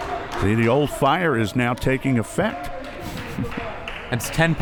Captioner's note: laughs